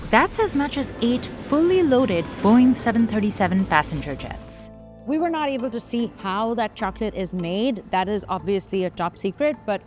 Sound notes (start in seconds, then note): 4.0 airplanes humming